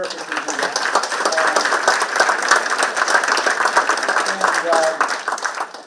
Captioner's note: participants clapping